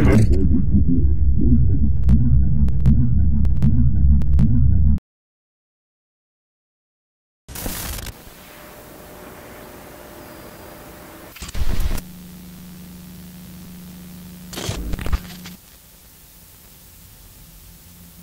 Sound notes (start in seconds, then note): 0.2 TV announcer's voice warbling; 7.6 television static hissing